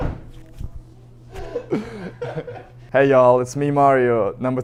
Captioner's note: laughter